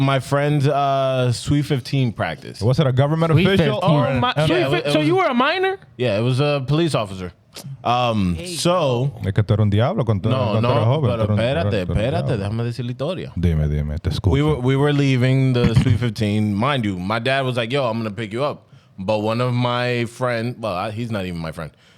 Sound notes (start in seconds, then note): 11.6 speaking In Foreign Language